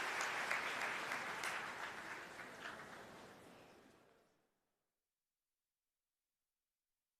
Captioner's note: applause